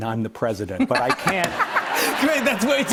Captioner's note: laughter